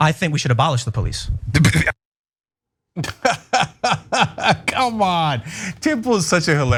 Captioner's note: laugh